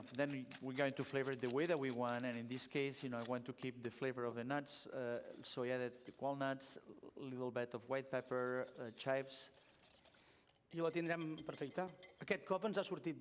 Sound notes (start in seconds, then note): 11.3 non-english speech